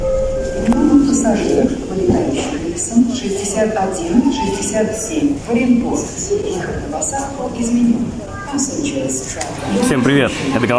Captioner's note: airport travel announcements